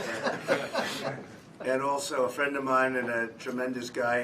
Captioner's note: laughter